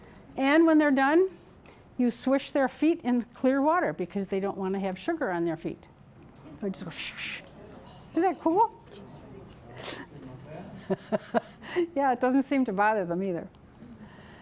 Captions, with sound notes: And when they're done, you swish their feet in clear water because they don't want to have sugar on their feet. I go Swoosh, swoosh! Isn't that cool? [laughing] Yeah, it doesn't seem to bother them either.